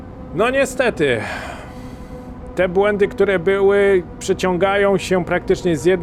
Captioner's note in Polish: westchnienie